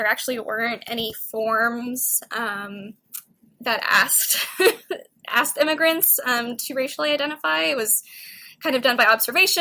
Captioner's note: laugher